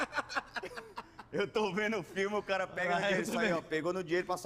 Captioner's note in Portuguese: ri muito; risada